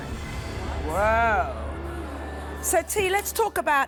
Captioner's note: murmuring